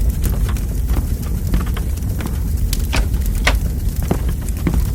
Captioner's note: none